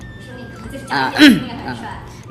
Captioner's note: suddenly clears throat